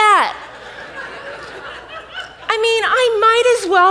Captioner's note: audience laughs